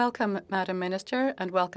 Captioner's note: speaking French